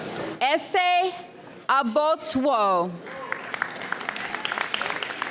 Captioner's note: audience applauds